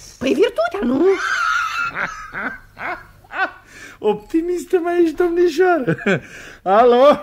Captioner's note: laughs